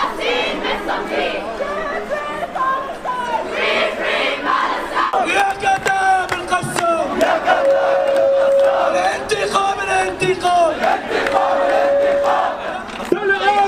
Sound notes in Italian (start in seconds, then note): 0.9 Applauso